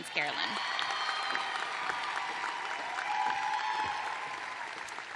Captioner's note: cheers and applause